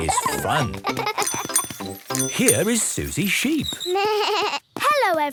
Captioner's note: bike bell; bleating